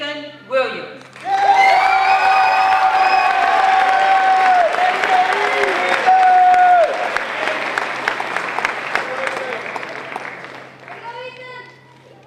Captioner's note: crowd cheering